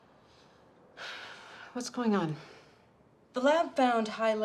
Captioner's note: sighs